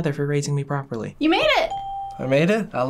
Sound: bell rings

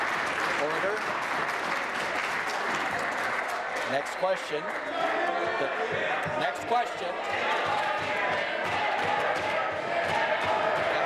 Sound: applause

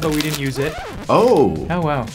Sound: vinyl record scratching

